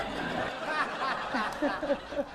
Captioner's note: laughing